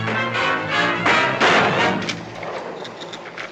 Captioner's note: gunshot